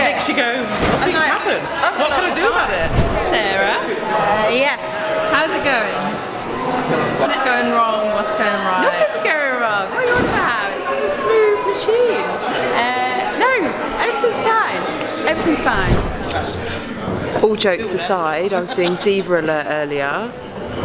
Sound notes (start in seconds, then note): 15.6 air whooshing